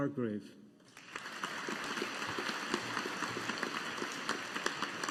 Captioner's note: audience applauding